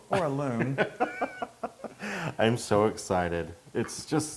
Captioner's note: laugh